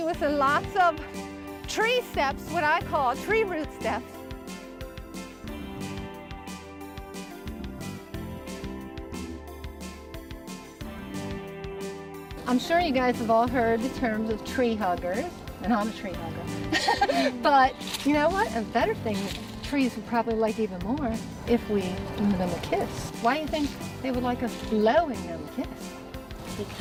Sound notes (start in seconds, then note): 16.6 laughing